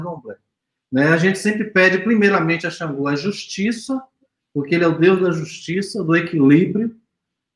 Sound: speaks portuguese

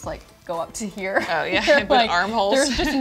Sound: laughing

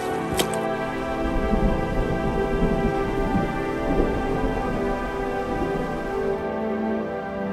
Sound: sound of rumble

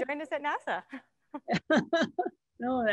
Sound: laughs

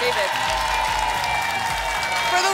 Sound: applause and cheering

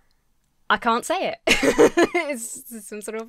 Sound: laughs

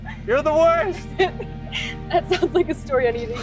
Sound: Lisa and Jason laughing

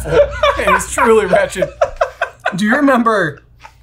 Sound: laughing

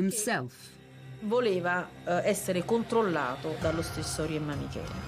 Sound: speaking in Italian

